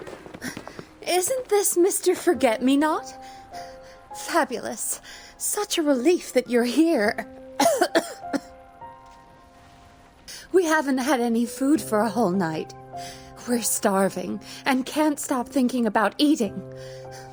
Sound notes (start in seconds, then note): 7.6 cough